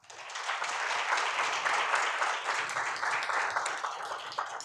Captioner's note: audience applauds